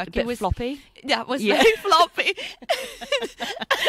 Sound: laughs

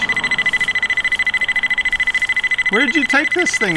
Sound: multiple beeping

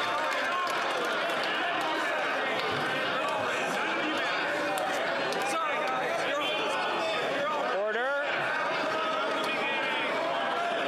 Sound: yelling

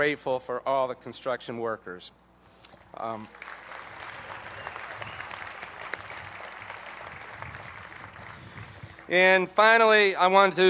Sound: applause

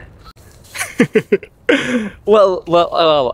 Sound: laughs

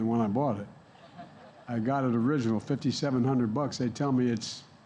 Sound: laughter

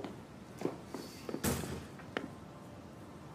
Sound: door closes

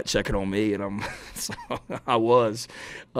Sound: Shane laughs

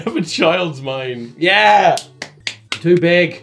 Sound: clapping

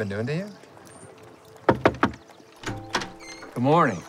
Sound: knocking on door

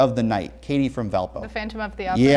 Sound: beeping

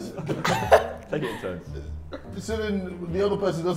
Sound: laughs

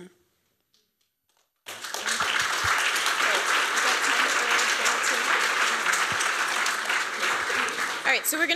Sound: applause

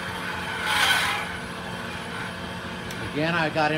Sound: metal screeching

